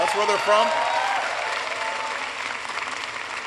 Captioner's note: applause